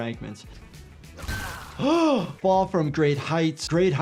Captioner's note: gasps